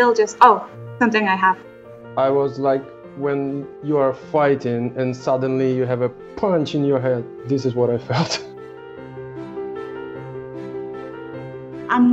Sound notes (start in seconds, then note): 8.1 laughs; 8.8 lighthearted piano music